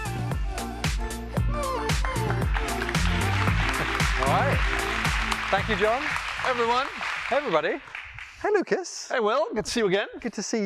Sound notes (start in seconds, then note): 0.0 electronic music playing; 2.0 applause